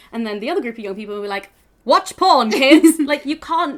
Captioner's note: laughs